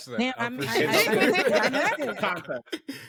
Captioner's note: laughter